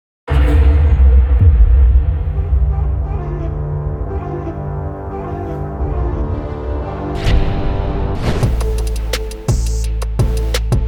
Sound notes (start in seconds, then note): none